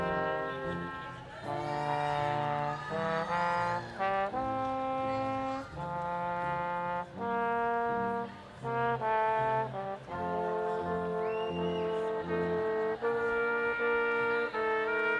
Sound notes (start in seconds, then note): 3.1 audience applauding; 7.8 brass quintet music